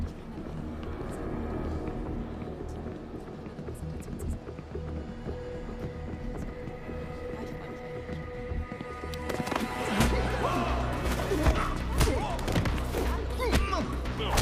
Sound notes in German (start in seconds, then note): 9.6 menge ringt nach luft